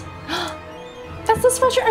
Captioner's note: gasps